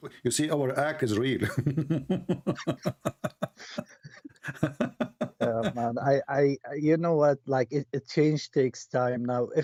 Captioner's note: Ketawa